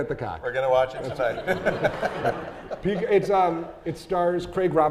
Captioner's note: laughs